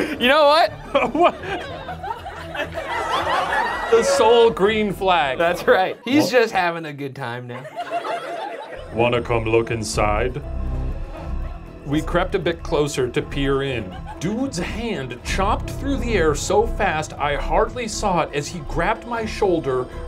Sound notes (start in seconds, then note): 0.0 audience groaning; 0.0 laughing; 2.5 audience laughing